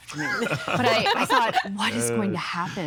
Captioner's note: all laughing